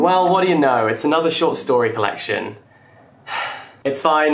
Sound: sighs

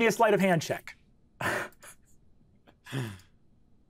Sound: chuckling

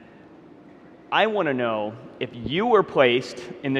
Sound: none

